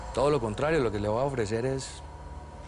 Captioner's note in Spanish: none